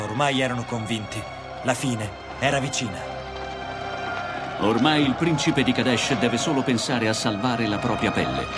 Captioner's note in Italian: Applauso